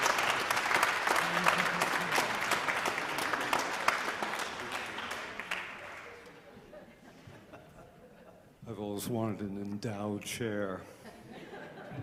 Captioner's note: applause